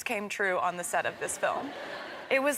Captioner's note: crowd members laughing